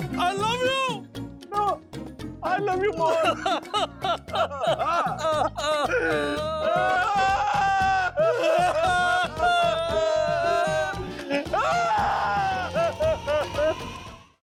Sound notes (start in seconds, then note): 3.6 both sob; 6.6 sobbing loudly